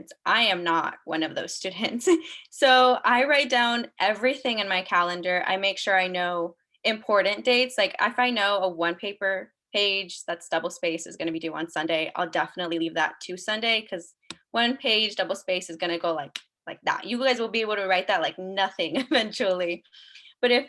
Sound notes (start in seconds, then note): 16.3 snaps fingers